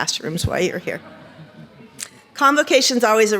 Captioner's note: audience laughs